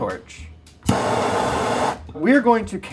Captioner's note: flame roaring